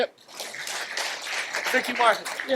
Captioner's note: audience applauds